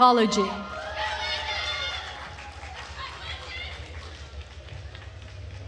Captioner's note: attendees cheering and applauding